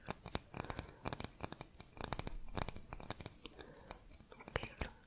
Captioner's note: tapping on stnoe